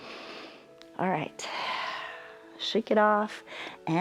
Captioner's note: exhales; inhales